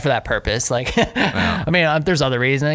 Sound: laughter

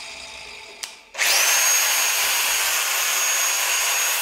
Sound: grinder motor howls again

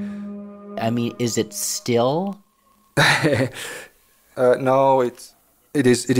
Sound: laughs

